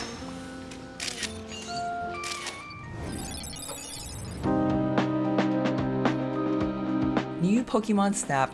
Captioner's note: camera shutter clicks